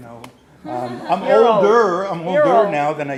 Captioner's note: laughs